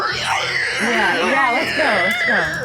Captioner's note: undead screeching